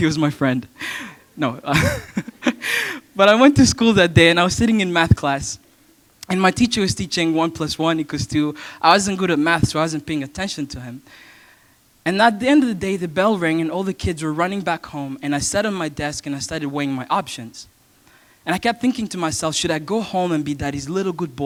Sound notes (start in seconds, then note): 1.7 chuckle